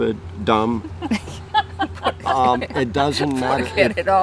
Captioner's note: laughing